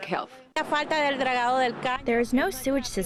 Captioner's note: speaking in foreign language